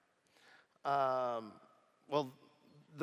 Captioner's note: none